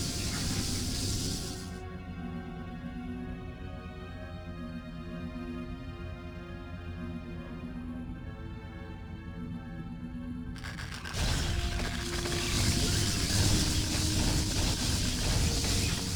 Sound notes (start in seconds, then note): 0.0 beeps